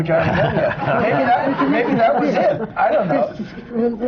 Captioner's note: laughter